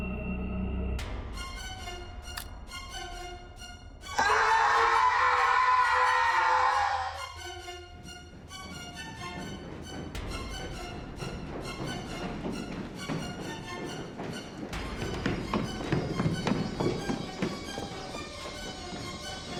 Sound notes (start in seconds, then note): 1.2 suspenseful music; 2.3 neck cracking; 4.1 screaming; 8.9 loud footsteps on stairs